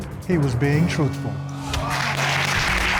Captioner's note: applause